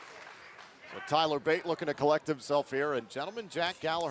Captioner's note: applause